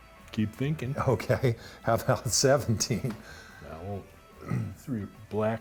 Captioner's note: laughing